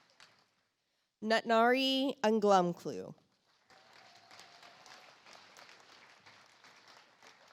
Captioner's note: audience applauds